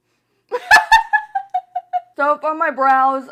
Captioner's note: laughs